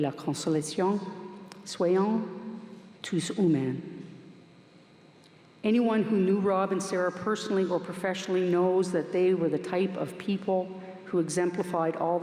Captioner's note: speaking french